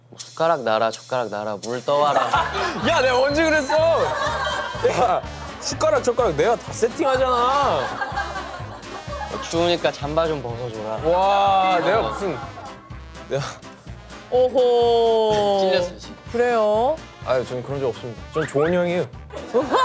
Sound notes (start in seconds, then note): 3.5 heh heh